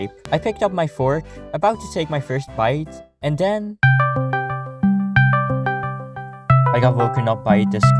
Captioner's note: Discord call incoming